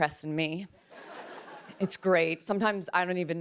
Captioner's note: laughter